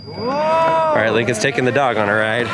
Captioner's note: engine revving